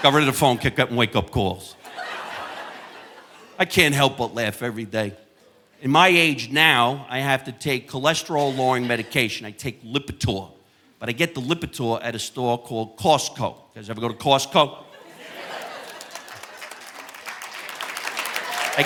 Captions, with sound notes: Got rid of the phone, kept getting wake up calls. (audience laughing) I can't help but laugh every day. In my age now, I have to take cholesterol-lowering medication. I take Lipitor, but I get the Lipitor at a store called Costco. You guys ever go to Costco? (audience laughing) (audience applauding)